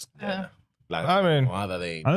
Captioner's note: speaking In Foreign Language